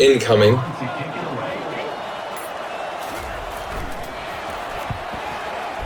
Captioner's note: crowd Noises